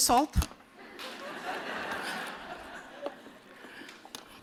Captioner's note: laughter